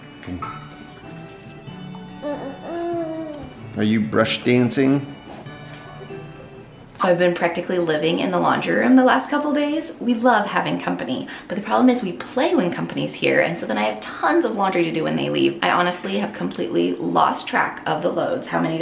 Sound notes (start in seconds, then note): 0.2 gentle music; 1.9 hums